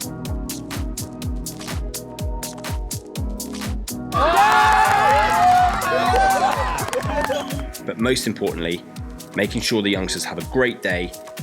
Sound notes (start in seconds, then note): 4.1 cheers